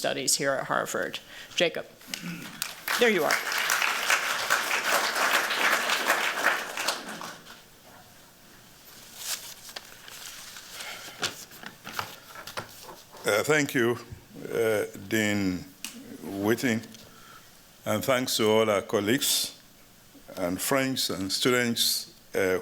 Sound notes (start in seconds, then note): 2.6 applause